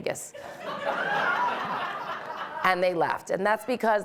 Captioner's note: audience laughing